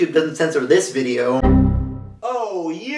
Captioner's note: Windows XP Error Sound